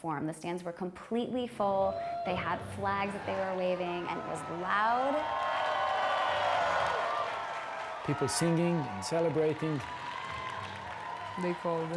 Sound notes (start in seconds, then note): 6.2 applause; 6.2 cheering